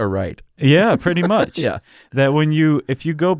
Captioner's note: laughs